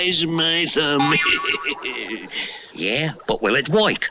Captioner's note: Simon Bar Sinister Laughs